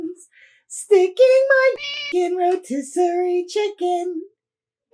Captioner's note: meow